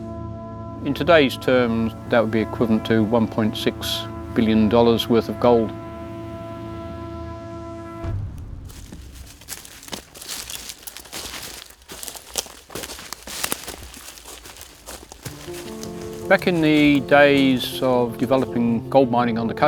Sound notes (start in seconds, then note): 9.6 footsteps walking